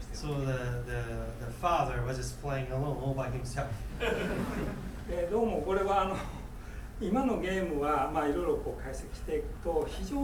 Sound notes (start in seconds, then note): 4.0 laughing; 5.4 speaking in foreign language